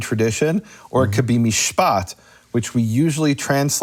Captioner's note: speaking in foreign language